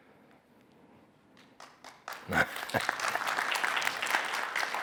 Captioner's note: applause